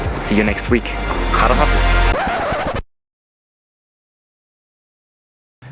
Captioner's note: record scratch